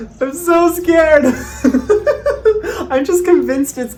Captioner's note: laughs